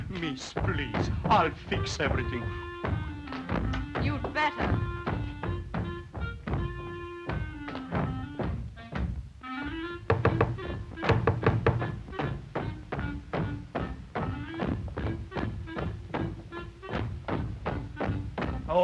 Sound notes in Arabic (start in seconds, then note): 6.1 ضربات الأقدام من الأعلى; 6.1 عزف الكلارينيت; 10.0 طرق على الباب; 13.0 أقدام تدوس; 13.0 تعزف على الكلارينيت